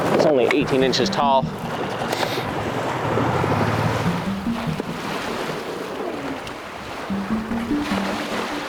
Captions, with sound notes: It's only 18 inches tall. (gentle synth music begins) (waves crashing)